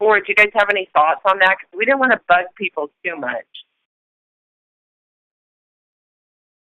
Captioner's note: silence